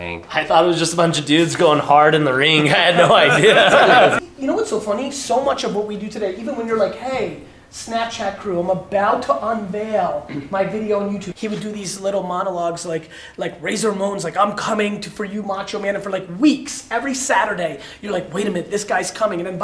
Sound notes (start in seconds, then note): 2.4 laughing